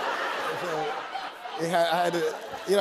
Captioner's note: laughter